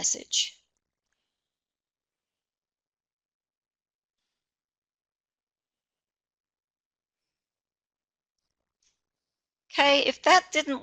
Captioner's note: no audio